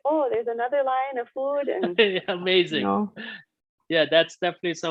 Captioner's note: laughing